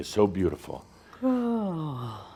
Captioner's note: yawning